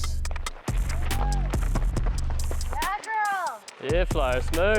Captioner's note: all cheer